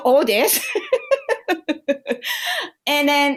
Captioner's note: laughter